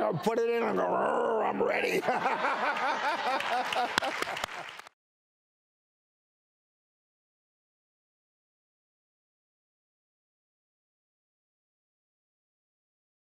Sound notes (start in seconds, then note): 0.9 growls; 2.3 group laughs